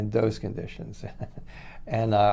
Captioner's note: chuckles